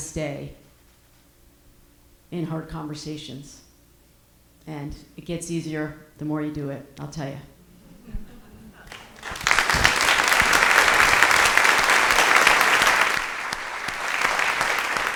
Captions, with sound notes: stay in hard conversations. And it gets easier the more you do it, I'll tell ya. (audience applauding)